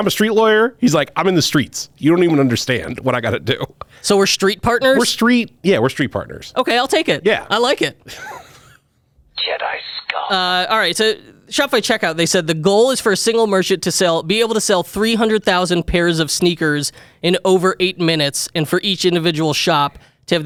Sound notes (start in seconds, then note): 8.9 laughs